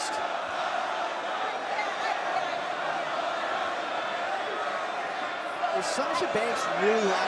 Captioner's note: crowd chatter